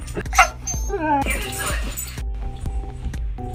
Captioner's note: whimpering; upbeat music